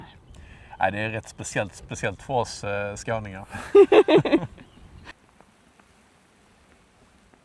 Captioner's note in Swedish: skratt